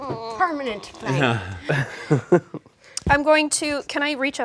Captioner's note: chuckles